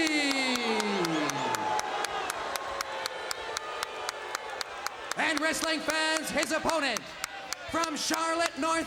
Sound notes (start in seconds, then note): 0.0 crowd cheering